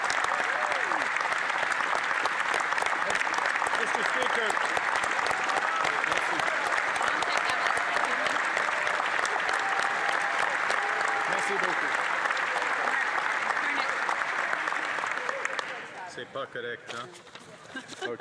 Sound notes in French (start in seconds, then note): 3.6 applaudissements; 5.8 applaudissements; 10.7 voix de l'interprète